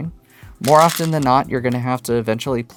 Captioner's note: stones rattling